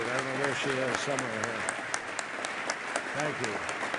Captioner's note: applause